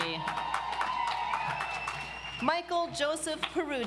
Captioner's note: audience applauds